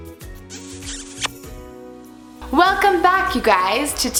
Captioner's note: kissing